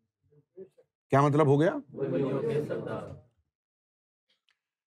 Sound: audience repeats

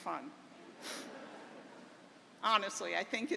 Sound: laughter

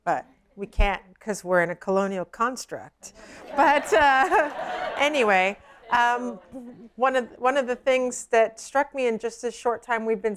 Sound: laughter

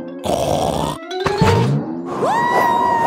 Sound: snorts

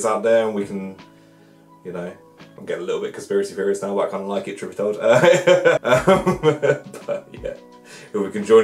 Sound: laughs

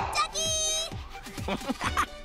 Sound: chuckling

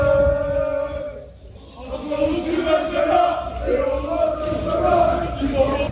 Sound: shouting in Turkish

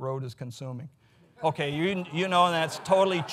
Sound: audience laughs

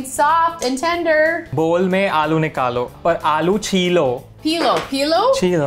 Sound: speaking in Hindi

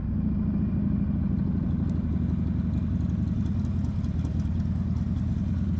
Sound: engine roaring

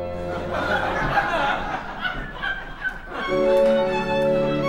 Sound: laughter

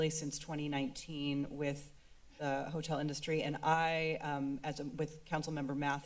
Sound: none

